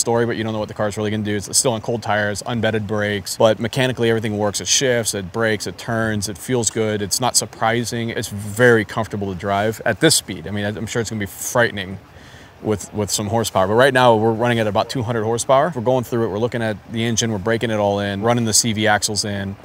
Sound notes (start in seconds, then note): none